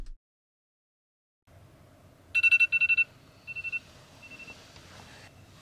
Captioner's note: Alarm sound